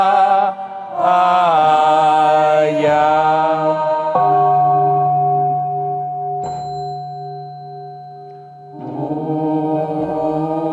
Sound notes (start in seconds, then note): 4.1 bell ringing; 5.9 singing chant